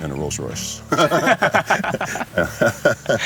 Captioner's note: laughs